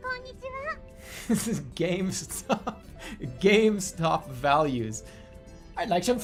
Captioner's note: giggling